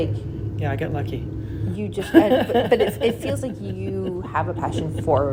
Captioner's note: laughing